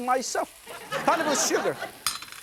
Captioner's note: laughter